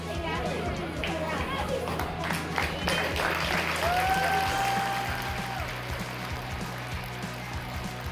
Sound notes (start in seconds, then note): 1.7 crowd clapping; 1.7 crowd cheering